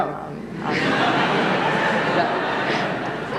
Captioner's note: laughter